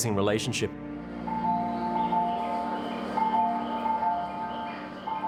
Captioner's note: station bell chiming